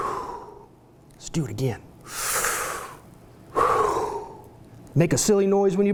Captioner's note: sucking and exhaling noise; sucking and exhaling noise